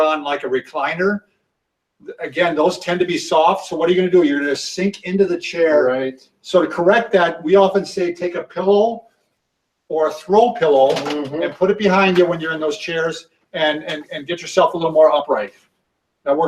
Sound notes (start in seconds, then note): none